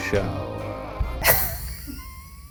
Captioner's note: laughs